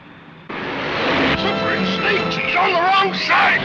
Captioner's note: engine roars